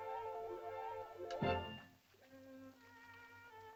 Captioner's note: soft uplifting music; piercing sound